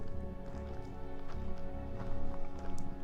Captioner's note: footsteps